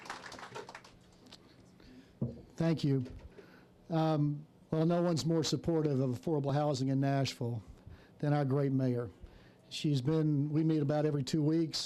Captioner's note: applause